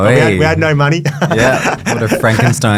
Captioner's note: laughs